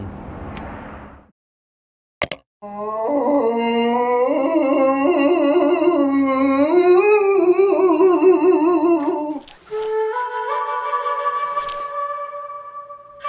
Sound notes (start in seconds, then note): 2.1 button clicks; 2.6 Adam moans loudly; 10.0 quirky flute music